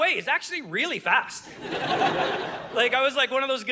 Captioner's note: audience laughing